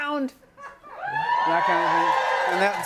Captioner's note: light cheering